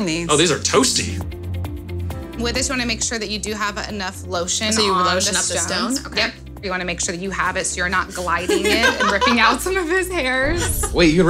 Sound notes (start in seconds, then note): 8.1 laughing